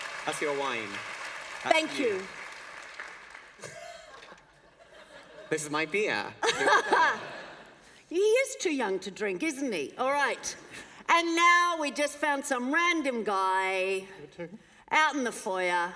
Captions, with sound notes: That's your wine. >> Thank you. [Laughter] >> This is my beer [laughter]. >> He is too young to drink, isn't he? All right, and now we just found some random guy out in the foyer.